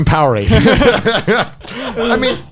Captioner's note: all laughing